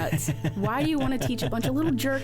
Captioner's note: laughs